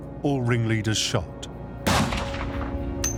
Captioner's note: gunshot